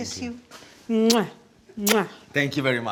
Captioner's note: kissing sound